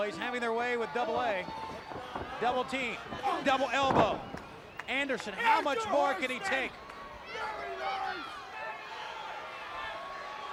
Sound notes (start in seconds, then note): 5.6 crowd chatter